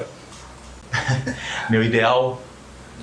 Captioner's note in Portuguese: Risadas